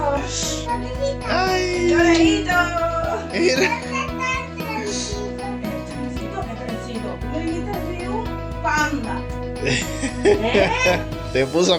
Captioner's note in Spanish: risas